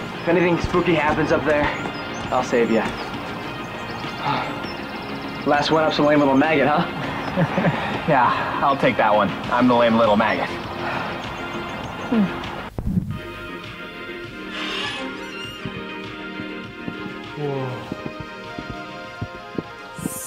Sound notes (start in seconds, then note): 3.3 upbeat music; 6.6 men laugh; 11.3 upbeat music; 14.5 door creaks; 14.8 upbeat music